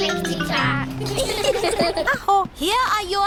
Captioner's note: all giggle